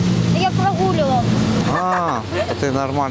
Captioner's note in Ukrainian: сміються